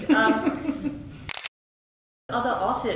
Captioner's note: camera clicks